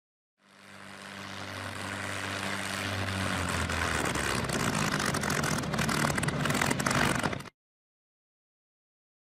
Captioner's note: aircraft engine sputtering to a stop as it gets closer